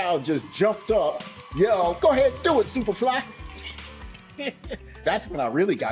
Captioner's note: chuckling